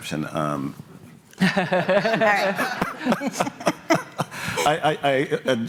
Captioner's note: laughter